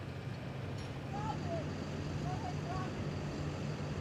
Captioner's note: shouting